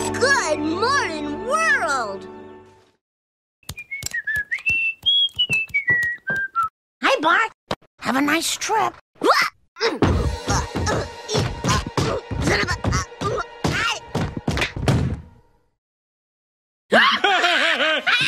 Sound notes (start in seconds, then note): 3.6 whistling; 9.1 grunt; 9.7 grunting; 16.9 laughter